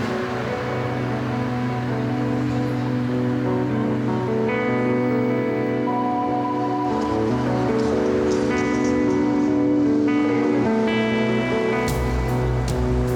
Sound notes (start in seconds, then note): none